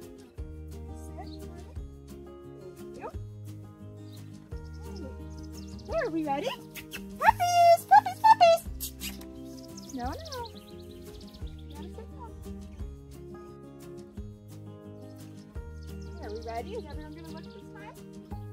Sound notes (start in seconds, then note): 6.6 kiss/lip smacking sounds sounds; 8.6 kiss/lip smacking sounds sounds